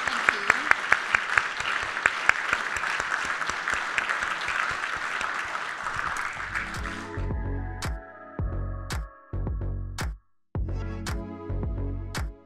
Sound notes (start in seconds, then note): 1.7 audience continues applauding; 6.3 upbeat music